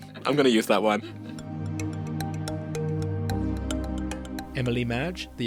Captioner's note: voiceover